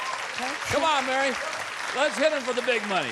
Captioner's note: applause